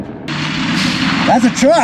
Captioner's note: truck revving